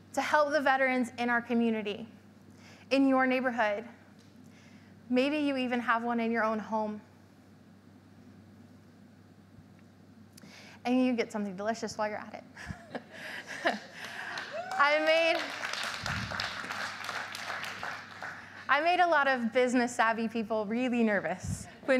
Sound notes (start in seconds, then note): 12.9 laughs; 13.8 audience clapping; 14.1 audience cheering